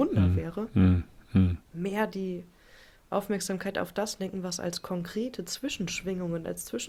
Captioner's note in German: räuspern